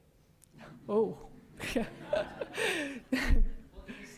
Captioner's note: laughs